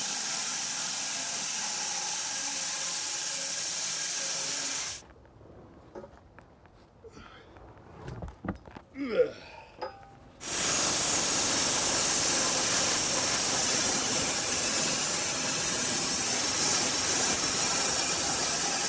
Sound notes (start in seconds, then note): 8.9 groaning; 11.1 power saw rattling